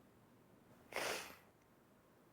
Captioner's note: sniffles